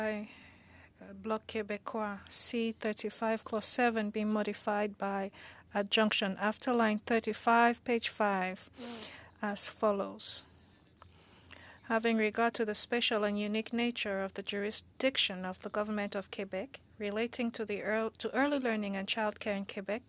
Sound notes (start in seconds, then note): 3.4 speaking French